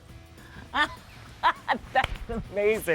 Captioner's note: laughs out loud; claps